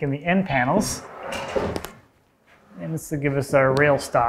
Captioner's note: wood scrapes